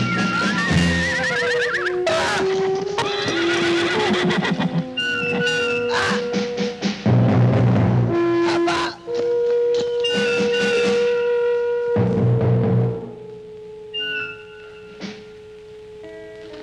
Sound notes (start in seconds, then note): 0.7 horse neighs loudly